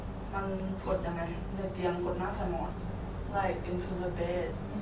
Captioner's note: speaks in foreign language